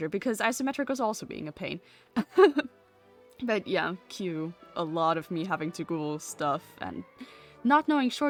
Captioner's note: laughs